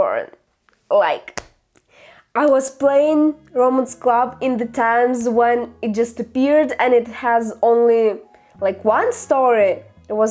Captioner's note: clap